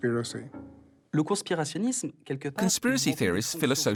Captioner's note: speaking foreign language